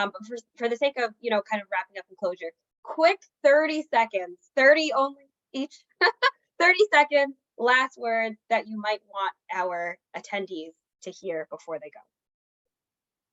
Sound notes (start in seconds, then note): 5.8 laughs